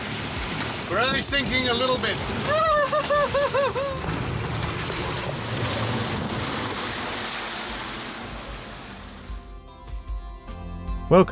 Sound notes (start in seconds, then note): 2.5 whimpering; 8.2 gentle music